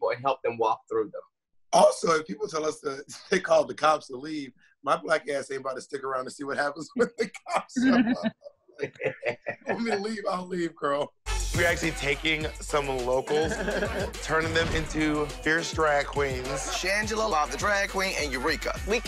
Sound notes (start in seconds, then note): 8.8 laughs; 11.2 upbeat music; 13.2 laughs